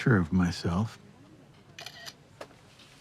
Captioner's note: iPad clicks